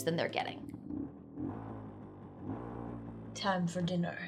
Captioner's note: motorcycle revs